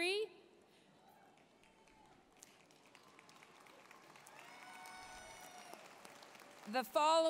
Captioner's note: applause, cheering